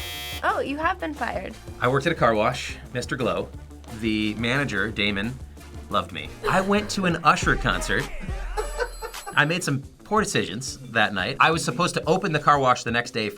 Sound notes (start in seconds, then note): 6.3 React laughs